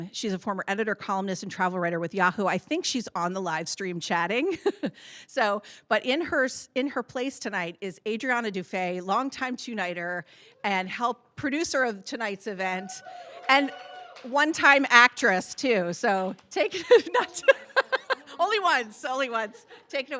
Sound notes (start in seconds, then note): 16.8 laughs